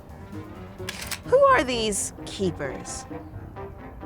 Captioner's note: camera clicks